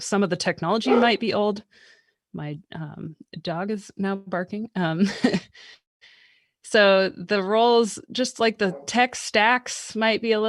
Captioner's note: dog barking